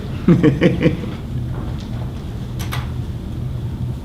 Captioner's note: laughs